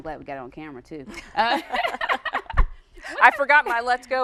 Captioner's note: laughing